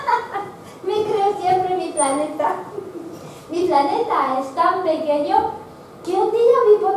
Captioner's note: laughs at himself